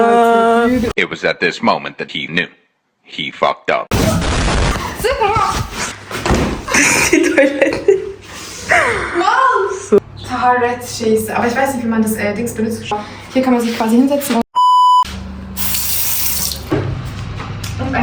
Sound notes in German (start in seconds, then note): 4.9 gelächter